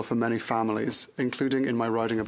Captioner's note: speaking French